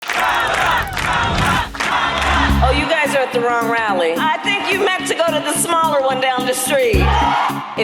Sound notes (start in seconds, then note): 0.0 crowd; 1.7 upbeat music